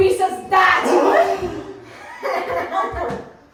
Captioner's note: shocked gasp; evil laughter